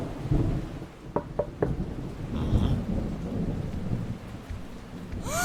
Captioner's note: electricity noises; knock at the door